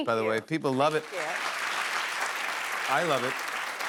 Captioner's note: applause